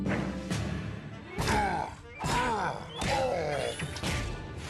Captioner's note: Scott Grunting